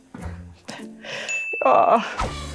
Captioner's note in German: Lockere Klänge; Klingeln